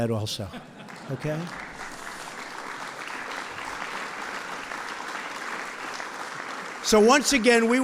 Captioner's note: applause